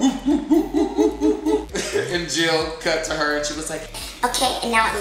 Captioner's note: feminine voice